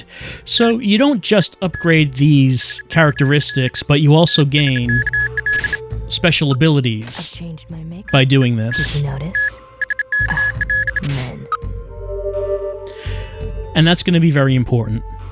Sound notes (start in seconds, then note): 9.8 scoffs